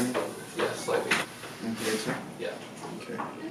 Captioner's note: mumbling